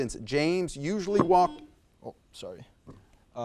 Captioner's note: buzzer buzzes